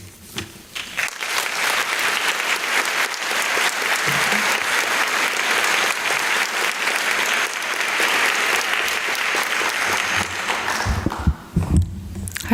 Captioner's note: applause